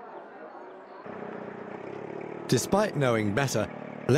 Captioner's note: engine humming